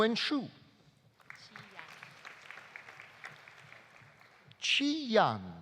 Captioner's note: audience applauding